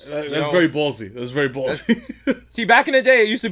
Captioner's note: laughs